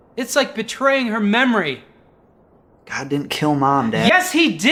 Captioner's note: none